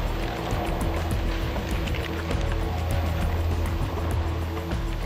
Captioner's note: oysters clattering